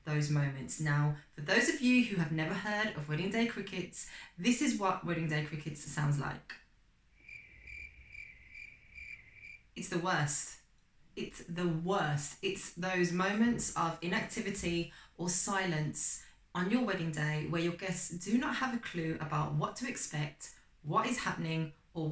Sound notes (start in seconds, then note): 7.1 sound effect - Crickets chirping